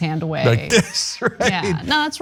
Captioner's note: laugh